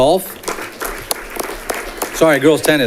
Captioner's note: audience clapping